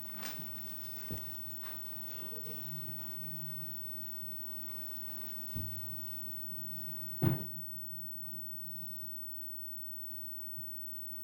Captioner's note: laughter